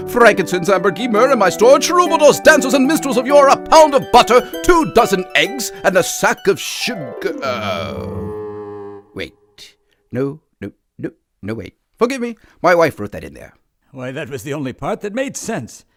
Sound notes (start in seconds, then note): 6.9 sour note plays; 9.4 music stops